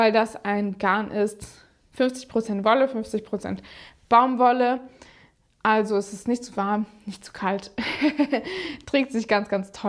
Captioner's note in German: gelächter